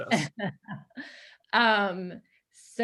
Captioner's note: chuckles